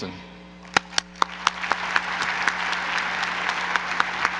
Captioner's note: applause